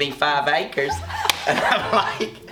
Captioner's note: laughing